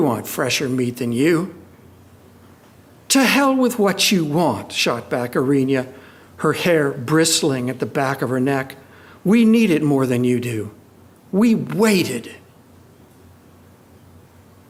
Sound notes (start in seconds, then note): none